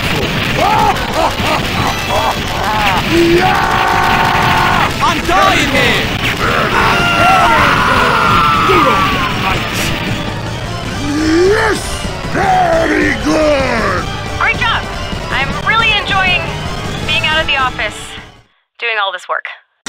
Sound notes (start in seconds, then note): 6.4 Scout POW screams